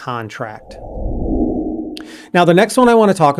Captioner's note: air swooshing